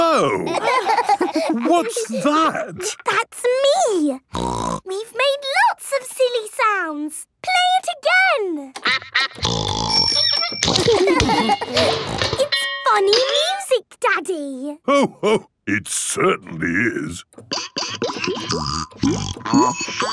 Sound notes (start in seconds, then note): 0.3 laughter; 4.3 snorting; 10.1 giggling